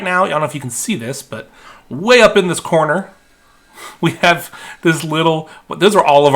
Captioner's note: laughing